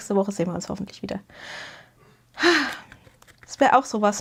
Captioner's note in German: seufzt